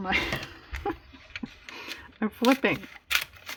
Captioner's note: laughs